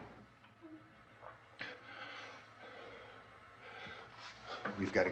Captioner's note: Barbra whimpering